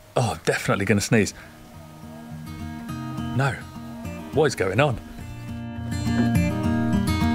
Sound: pauses to sneeze

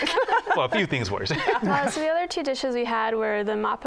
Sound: laughter

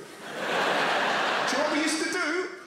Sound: crowd laughter

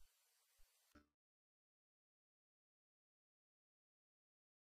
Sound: silence continuing

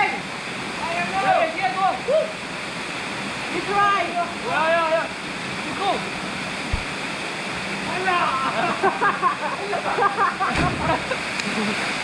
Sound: boys shouting to each other; splash

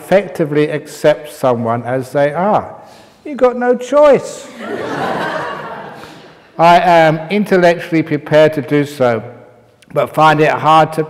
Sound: laughter

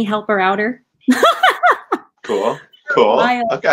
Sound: laughing

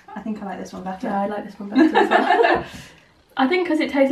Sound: laughter

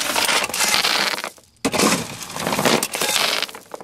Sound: gravel clinking

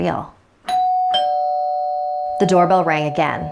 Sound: doorbell rings

